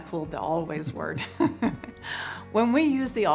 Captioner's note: chuckles